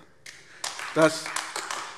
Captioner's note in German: Beifall AfD